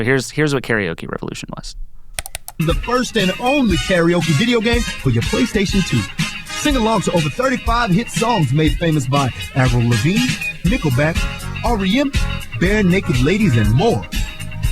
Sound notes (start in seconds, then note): 2.7 voiceover